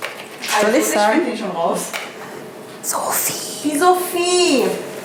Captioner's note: whispers